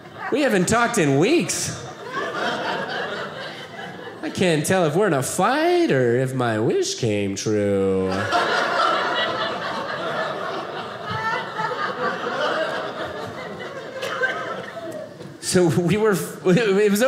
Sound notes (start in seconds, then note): 2.0 audience laughing; 8.0 audience laughing